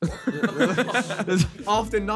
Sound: all laughing

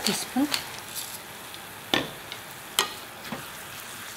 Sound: sizzling

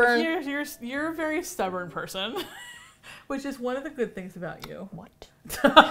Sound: laughs

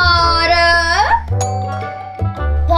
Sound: doorbell

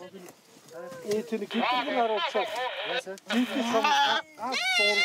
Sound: Mongolian spoken audio

